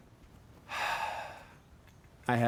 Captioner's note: sighs